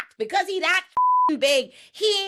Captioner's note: beep